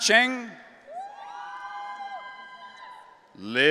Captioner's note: audience cheering